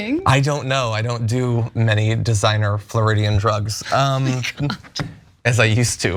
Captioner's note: laugh